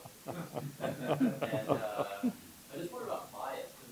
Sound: laughter

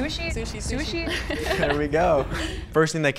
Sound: all laugh

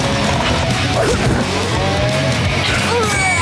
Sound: mooing; grunting

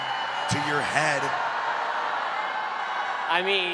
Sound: booing

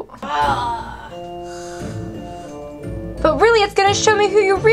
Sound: moaning

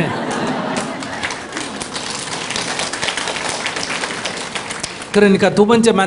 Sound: audience Laughter/Applause

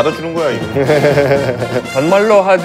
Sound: laughs

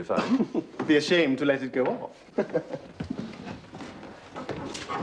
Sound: laughs

